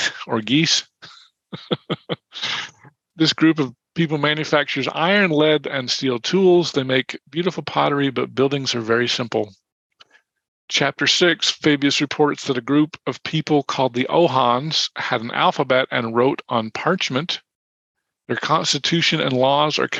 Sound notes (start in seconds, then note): 1.5 chuckling